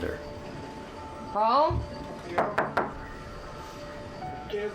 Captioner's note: knock, knock, knock; TV sounds low